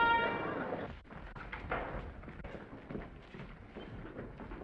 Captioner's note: footsteps receding